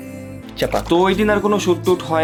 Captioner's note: pop